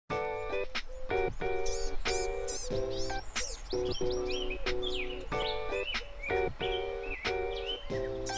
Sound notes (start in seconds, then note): 0.3 lighthearted music; 2.6 birds chirping